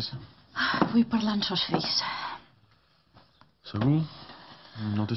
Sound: sighs

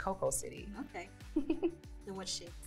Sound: laughing

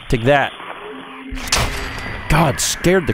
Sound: blam!

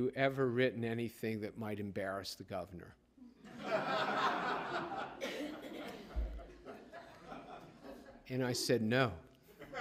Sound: laughter

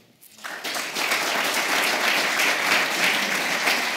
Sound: applause

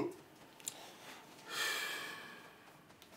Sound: sigh deeply

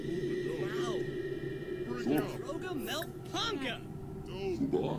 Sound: Eerie Sounds and Simlish

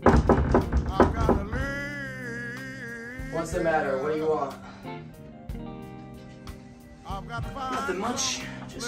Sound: knocks

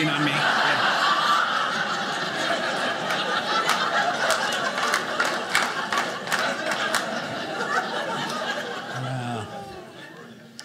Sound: audience laughing

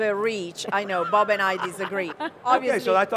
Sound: chuckles

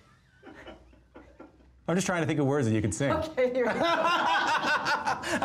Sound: laughter

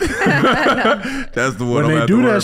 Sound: all laughing

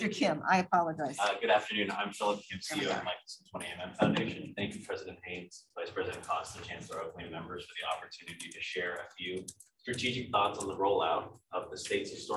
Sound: speaking away from mic

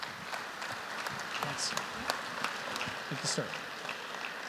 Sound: applause

